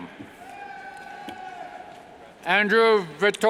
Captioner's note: yells